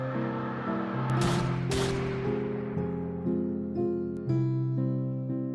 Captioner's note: gunshots firing